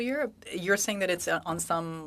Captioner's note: speaking French